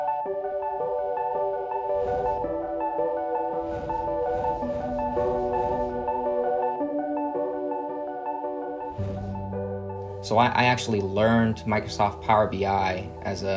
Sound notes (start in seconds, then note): 3.2 whooshing sounds